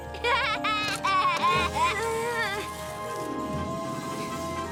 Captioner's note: Milo laughs; Lizbeth grunting